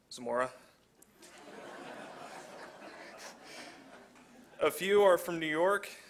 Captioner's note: laughter